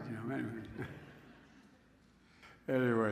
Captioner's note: laughs